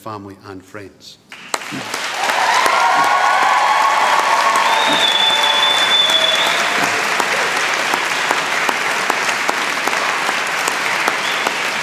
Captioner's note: applause